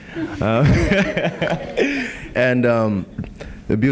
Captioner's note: laughing